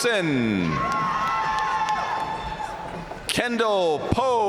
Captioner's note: audience cheering and applauding